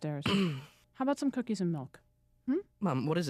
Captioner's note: grunts